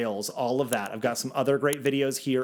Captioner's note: cursor clicks